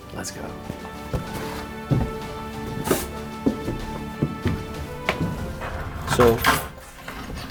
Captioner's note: footsteps tapping and shuffling